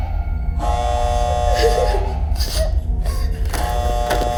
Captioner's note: alarm buzzing